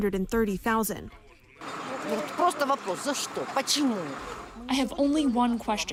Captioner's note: through translator